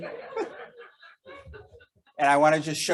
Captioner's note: audience laughing